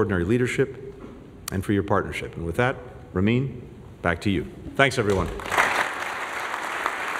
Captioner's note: applause